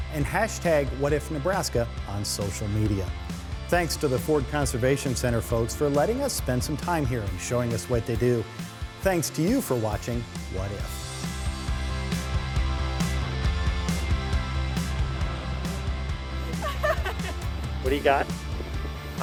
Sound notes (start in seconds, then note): 11.8 theme music; 14.9 drone buzzing; 16.5 laughter